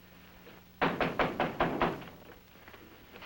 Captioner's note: knock